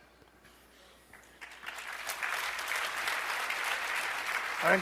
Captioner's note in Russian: аплодисменты